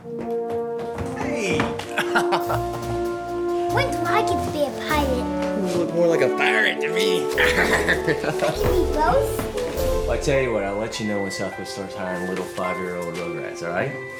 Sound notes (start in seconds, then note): 0.2 upbeat music; 1.4 laughs; 7.3 Craig laughing